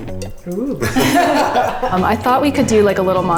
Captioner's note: laugh